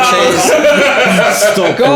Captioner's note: laughing